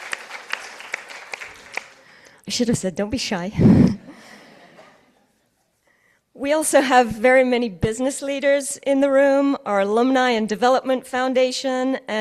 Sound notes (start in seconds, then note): 3.6 chuckles; 3.8 participants laughing